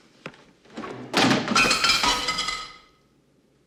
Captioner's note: clatters